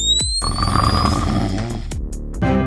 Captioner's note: snores